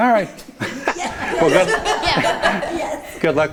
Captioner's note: everyone laughs